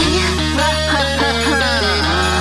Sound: hahahaha baby

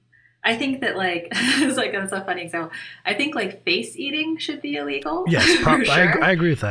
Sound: chuckle

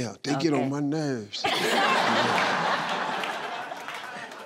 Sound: laughing

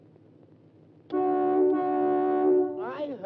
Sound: car horn blows

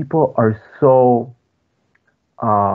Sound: speaking foreign language

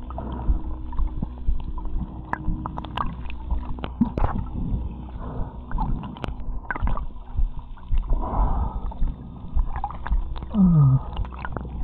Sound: heart Beating

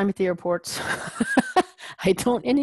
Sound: laugh

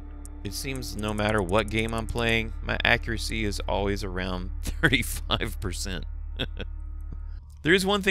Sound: laughs

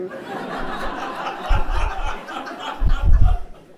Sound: laughs

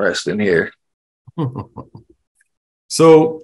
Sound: laughs

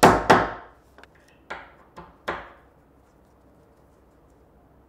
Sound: hammering piece in place

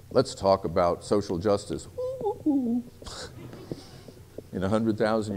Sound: curious monkey noise

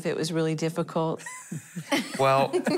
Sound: laughing

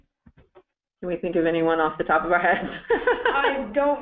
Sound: laughter

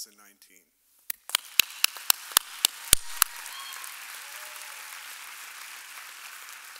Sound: audience applauding and cheering

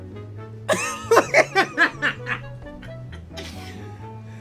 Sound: laughs

